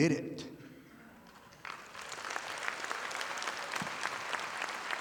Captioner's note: audience applauding